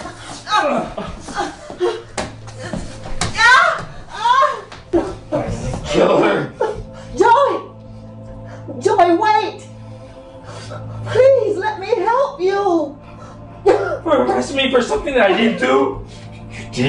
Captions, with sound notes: (groaning) (yelling) Kill her! - Joey! Joey, wait! Please, let me help you! - You'll arrest me for something that I didn't do.